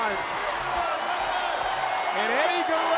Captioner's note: crowd cheering